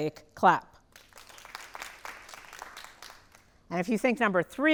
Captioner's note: audience applauding lightly